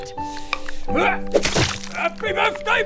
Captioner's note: squish